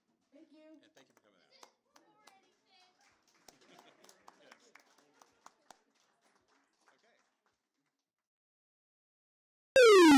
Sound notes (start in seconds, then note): 1.3 audience applauding; 7.6 vintage arcade game sound